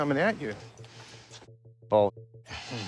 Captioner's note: muted